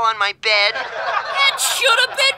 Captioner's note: laughing